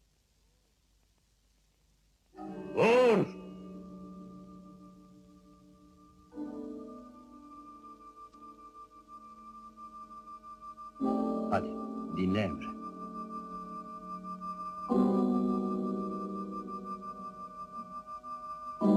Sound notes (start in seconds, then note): 4.6 tense music; 11.9 whispers